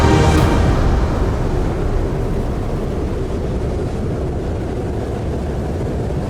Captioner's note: extreme Drone